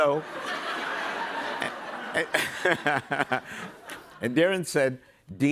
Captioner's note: laughter